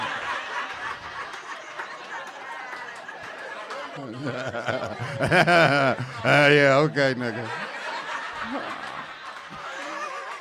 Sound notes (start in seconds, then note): 0.1 audience laughing; 4.2 laughing; 7.6 audience laughing